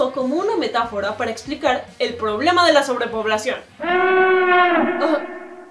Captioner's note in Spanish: alarma